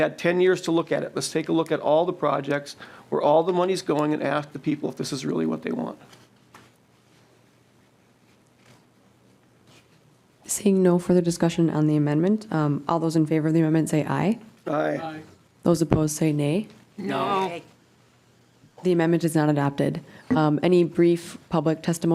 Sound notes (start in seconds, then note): 17.0 chorus of ayes